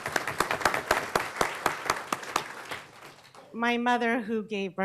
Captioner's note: applause